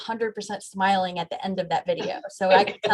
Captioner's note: laughs